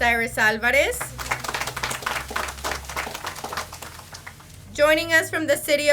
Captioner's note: audience applauds